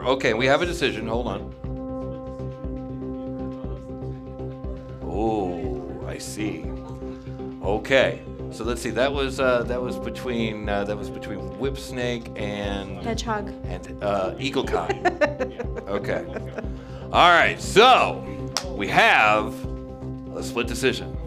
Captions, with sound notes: Okay, we have a decision, hold on. Oh, I see. Okay, so let's see, that was between Whipsnake and Eagle-Kai. (laughing) Okay, all right, so we have, let's flip decision.